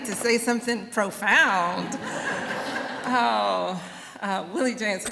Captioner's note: laughter